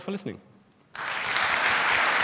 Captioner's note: applause